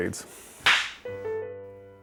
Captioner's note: slate clap